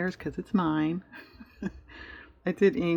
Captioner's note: laughs